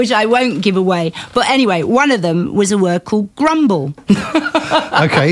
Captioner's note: laughter